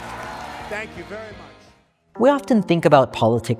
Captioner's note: audience applauding